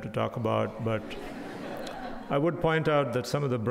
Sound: crowd laughing

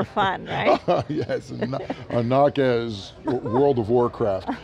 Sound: laughs

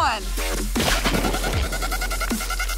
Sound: paint ball splatters; dramatic electronic music

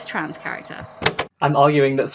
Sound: tape recorder click off

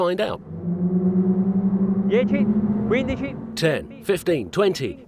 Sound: engines humming sharply

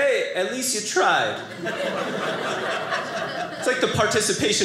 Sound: audience laughing

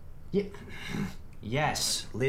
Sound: sighs

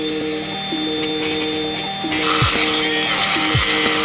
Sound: angle grinding

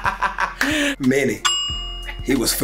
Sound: bell sound

